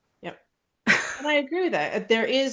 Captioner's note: laughs